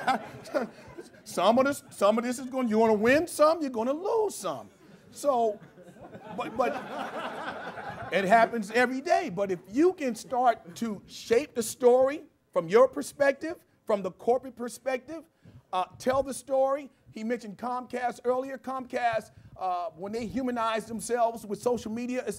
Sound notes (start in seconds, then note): 0.0 laughter; 8.0 laughter